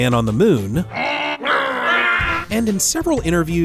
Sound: grunting sounds

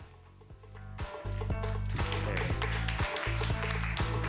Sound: applause

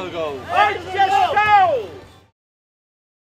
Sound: performers shout

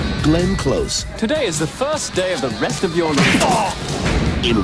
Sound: smack!

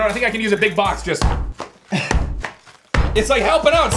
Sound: thumps

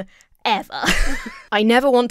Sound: laughs

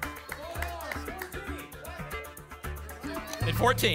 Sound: audience shouting numbers

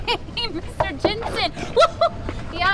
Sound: emma giggles; knocks on glass

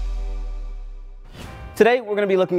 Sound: air whooshing

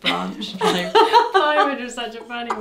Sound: laughs

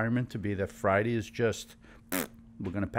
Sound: blows raspberry

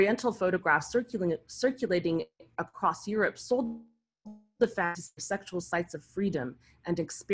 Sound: audio distorts

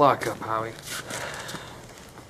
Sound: sigh

